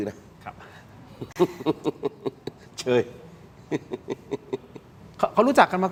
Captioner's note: laughs